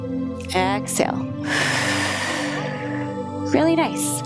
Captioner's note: inhales; exhales